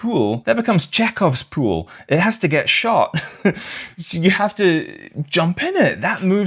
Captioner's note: laughter